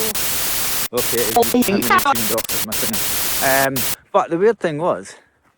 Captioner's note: interference